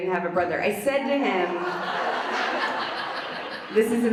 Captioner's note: audience laughs